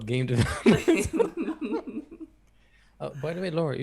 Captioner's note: everyone Laughs